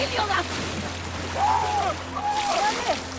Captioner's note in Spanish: Gritos